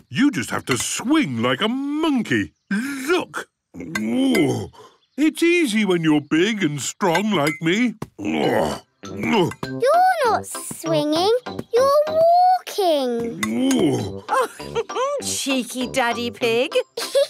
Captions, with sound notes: You just have to swing like a monkey, look! (grunts) It's easy when you're big and strong like me. (grunts) - You're not swinging! You're walking! (laughs) - Cheeky Daddy Pig!